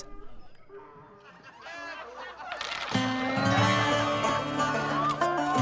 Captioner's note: men laughing; dice rolling